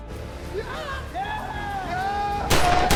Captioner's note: cheers